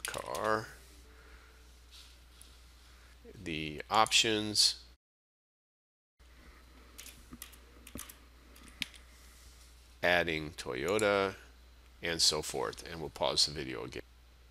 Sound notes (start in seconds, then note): 5.3 sound of typing